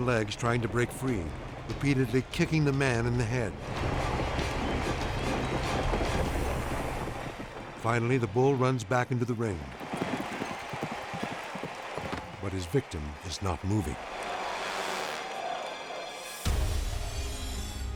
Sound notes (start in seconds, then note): 3.8 dramatic music; 9.5 bull galloping; 14.0 dramatic music